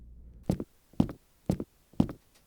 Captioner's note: footsteps